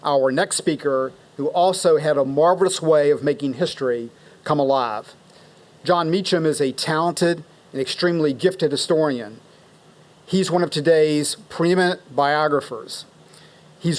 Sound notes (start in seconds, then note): none